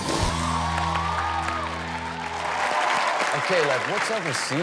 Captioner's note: rock music; audience cheers